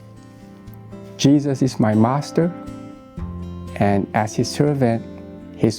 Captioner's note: in English